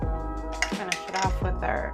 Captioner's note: clinking